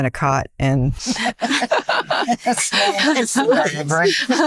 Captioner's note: laughing